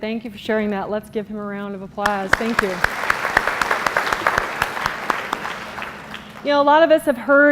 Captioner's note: applause